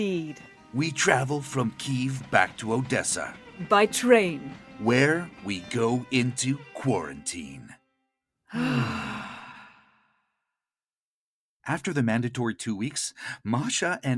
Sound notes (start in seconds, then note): 8.5 both sigh